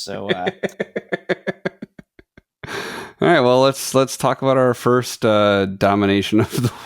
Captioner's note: laughing